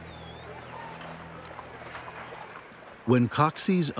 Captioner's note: din of crowd